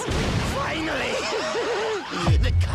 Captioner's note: laughs